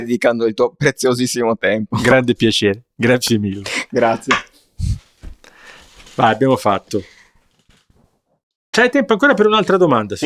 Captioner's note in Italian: risate